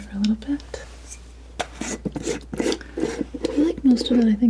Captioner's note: scratching